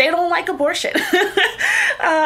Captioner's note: laughs